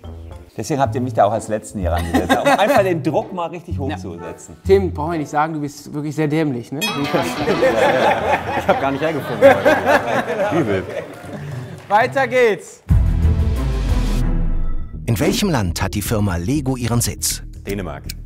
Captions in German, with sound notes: Deswegen habt ihr mich als Letzten rangesetzt. Um den Druck hoch zu setzen. Tim, brauchen wir nicht sagen, du bist sehr dämlich. Ich hab gar nicht hergefunden heute. (lacht:) Genau. - Übel. Weiter geht's! (Spannungsvolle Musik) Dänemark.